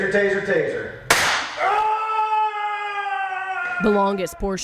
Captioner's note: officer yells